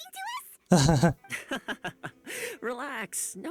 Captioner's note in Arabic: يضحك